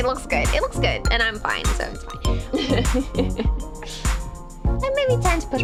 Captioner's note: giggle